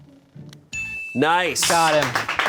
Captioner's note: bell chimes